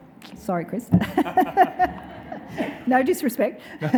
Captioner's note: audience laughing